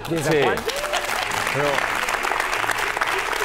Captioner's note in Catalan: aplaudiments